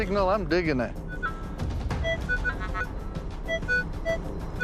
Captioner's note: beeping